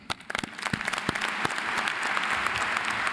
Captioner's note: applauding